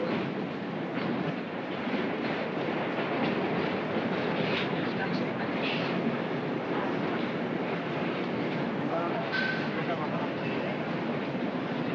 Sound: subway car rumbles

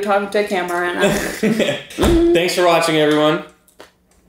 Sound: laughing

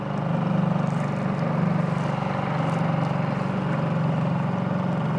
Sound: boat engine chugging

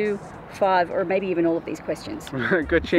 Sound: laughs

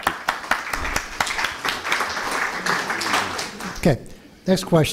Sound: applause

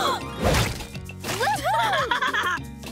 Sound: laughing

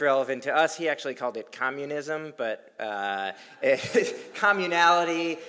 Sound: laugh

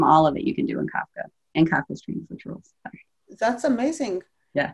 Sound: speaking faintly

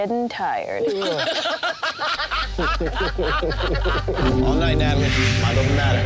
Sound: everyone laughing

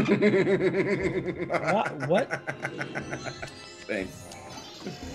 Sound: laugh

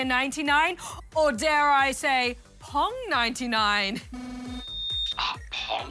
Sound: gasps

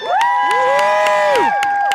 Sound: aplause

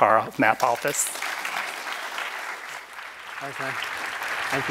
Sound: applause

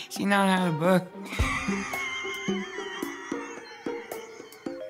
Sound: laughs

